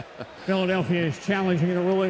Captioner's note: chuckles